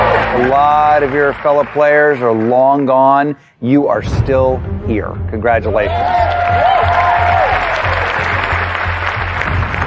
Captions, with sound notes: A lot of your fellow players are long gone - you are still here. Congratulations. (CHEERING AND APPLAUSE)